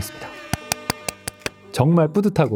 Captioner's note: clap clap clap clap clap